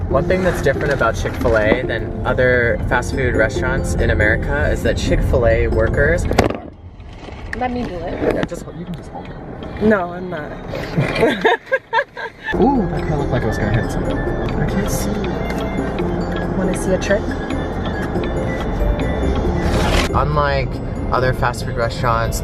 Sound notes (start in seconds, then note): 10.8 laughing